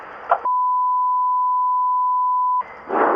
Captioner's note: beeps